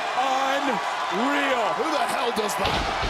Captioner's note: crowd cheers